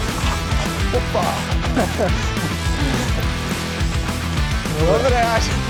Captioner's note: laughs